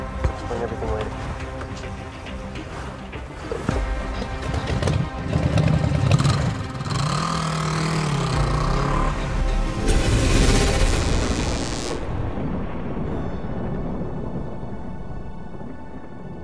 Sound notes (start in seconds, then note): 6.6 motorcycle engine; 9.8 lightning and thunder; 13.2 mellow electronic music